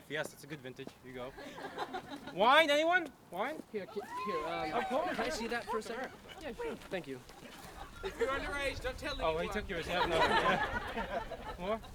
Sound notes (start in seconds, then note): 4.0 audience cheers; 9.8 laughter